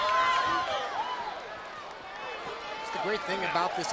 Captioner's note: crowd chatter